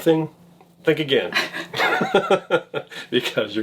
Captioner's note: laughs